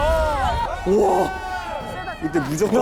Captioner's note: exclaiming